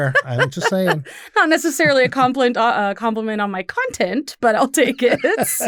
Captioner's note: laughs